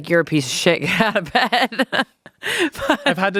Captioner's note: laughs